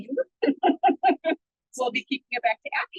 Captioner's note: laughing